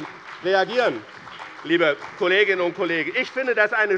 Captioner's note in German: Beifall bei dem BÜNDNIS 90/DIE GRÜNEN und der CDU